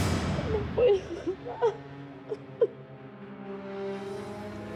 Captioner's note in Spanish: Sollozos